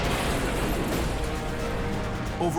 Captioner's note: boom